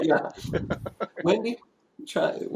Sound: laughs

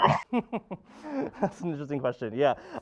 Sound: instructor laughing

